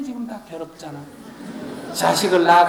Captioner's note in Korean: 청중 웃음